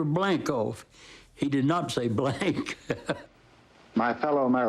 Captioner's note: chuckles